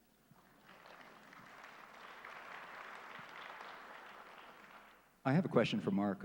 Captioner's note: applause